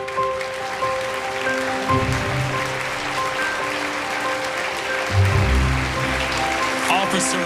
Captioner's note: applause